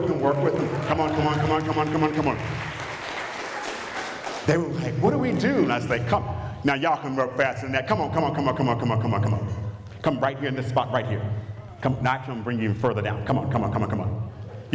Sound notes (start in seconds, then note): 2.6 applause